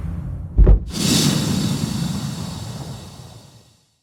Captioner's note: whooshing